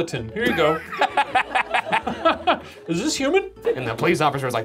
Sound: laughing

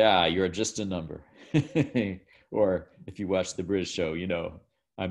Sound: laughs

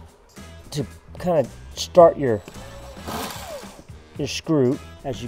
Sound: drill whirring

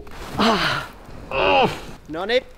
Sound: grunts

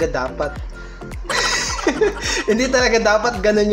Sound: laughs

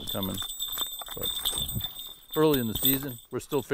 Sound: bell ringing

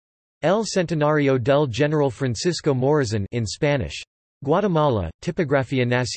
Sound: in Spanish

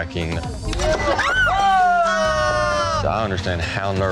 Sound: screaming noise

